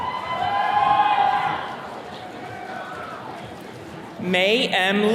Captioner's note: attendees cheering